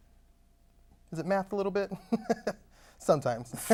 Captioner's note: chuckles